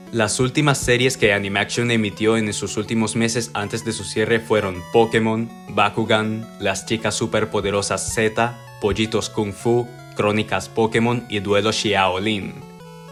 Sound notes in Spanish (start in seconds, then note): none